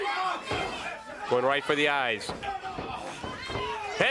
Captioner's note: crowd cheering